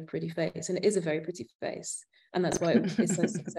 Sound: chuckling

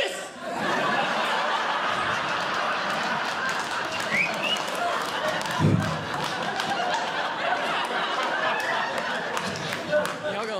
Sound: audience Laughing

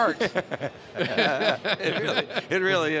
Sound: laughter

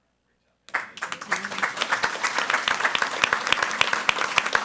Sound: audience applauding

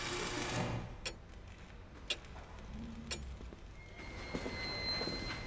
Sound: clock ticking

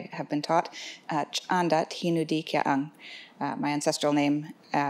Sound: speaks foreign language

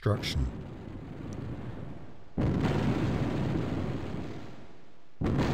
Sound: explosions boom

